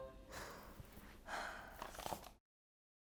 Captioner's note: deeply sighing